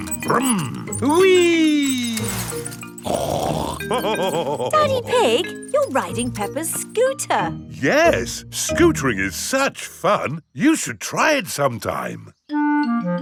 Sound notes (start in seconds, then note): 2.9 snorts and laughs